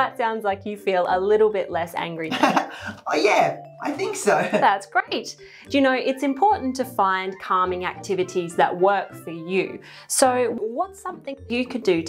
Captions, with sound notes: - Well, that sounds like you feel a little bit less angry. - (chuckling) Oh yeah, I think so. - That's great. You know it's important to find calming activities that work for you. So what's something you could do